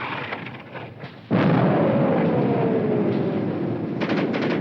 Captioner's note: bomb exploding